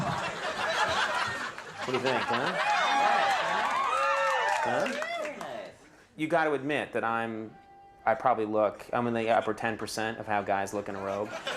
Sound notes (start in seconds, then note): 0.0 audience laughing; 3.6 audience cheering and laughing